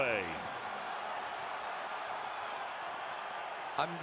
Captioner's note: crowd clamoring